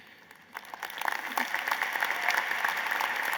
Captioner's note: applause